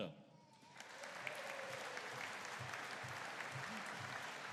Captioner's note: audience applauding